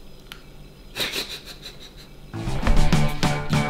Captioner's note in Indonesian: tertawa